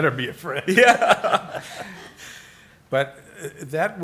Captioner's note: laughs